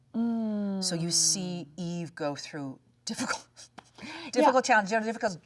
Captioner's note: laughs